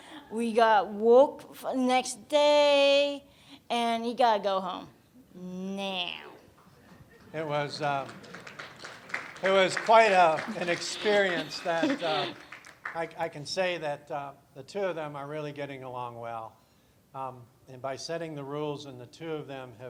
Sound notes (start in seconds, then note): 7.2 applause